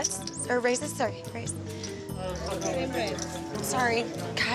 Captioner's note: stuttering